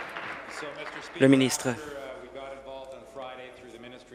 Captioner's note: applause